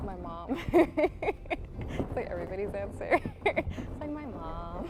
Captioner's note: laughter